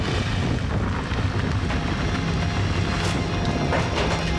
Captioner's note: fire roaring; intense music continues